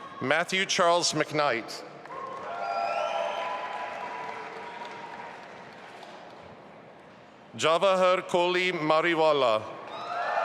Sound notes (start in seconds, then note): 2.0 audience applauding